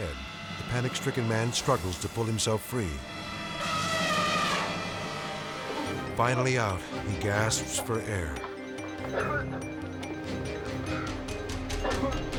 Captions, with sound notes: The panic-stricken man struggles to pull himself free. (elephant trumpeting) Finally out, he gasps for air. (zookeeper coughing)